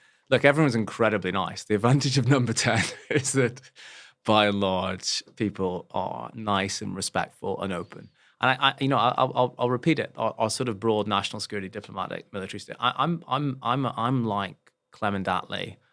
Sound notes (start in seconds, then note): 2.7 laugh